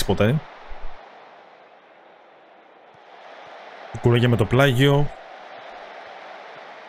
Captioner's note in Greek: χειροκρότημα